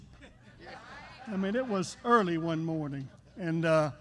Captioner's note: laughter